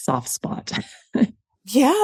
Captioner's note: laughs